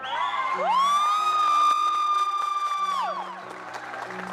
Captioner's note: cadets cheering